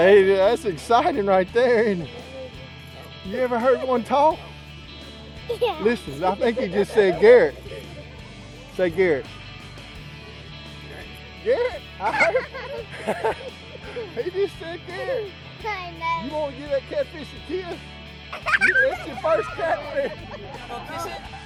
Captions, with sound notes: That's exciting right there isn't it? You ever heard one talk? Listen, I think he just said Derick. Derick, I heard it! (laughs) He just said Derick. You wanna give that catfish a kiss? (boy screams) Your first catfish.